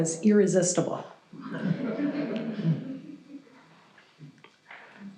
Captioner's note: audience chuckles